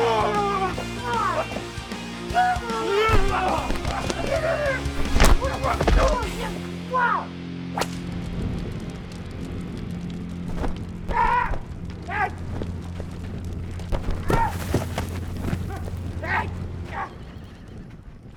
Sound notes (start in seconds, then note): 11.1 assailant yelping; 11.1 flames crackling